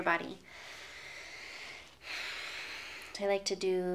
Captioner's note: takes a deep breath